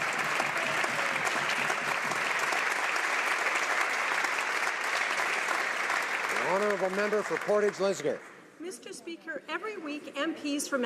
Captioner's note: applause